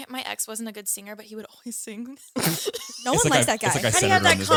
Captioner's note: laughs